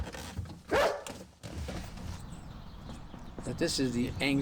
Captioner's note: dog barks